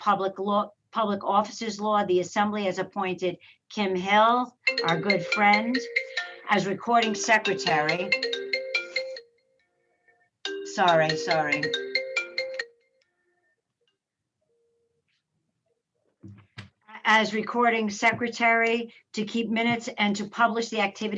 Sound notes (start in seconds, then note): 7.4 phone ringing